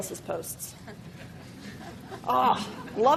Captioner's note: laughing